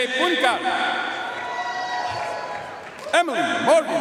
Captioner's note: audience cheering and applauding